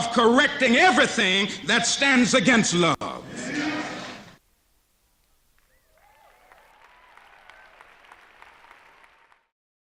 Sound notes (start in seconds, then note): 5.6 applause